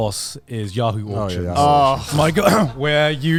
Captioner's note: groans